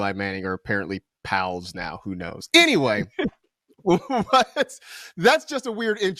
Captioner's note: laughs